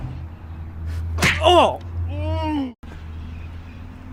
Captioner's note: moans